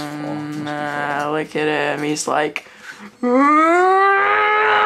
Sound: roars

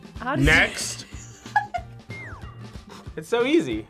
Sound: React laughs

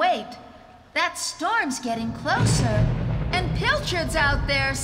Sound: thunderclap

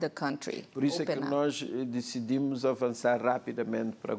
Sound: speaking portuguese

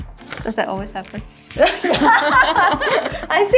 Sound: laughs

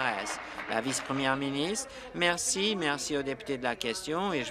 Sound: applause

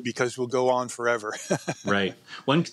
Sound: laughs

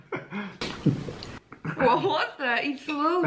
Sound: slurp

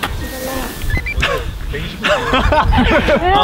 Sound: laughing; can’t stop laughing

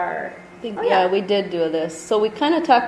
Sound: voiceover

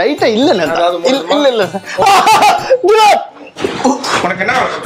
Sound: screams

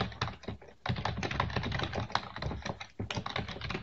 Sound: typing

